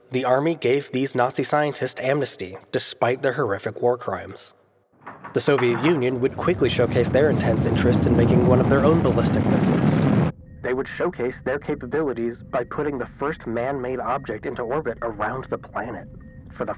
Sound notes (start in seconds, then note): 5.4 rocket roaring; 10.6 radio static effect